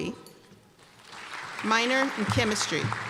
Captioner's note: applause